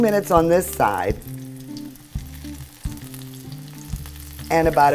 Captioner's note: soft sizzling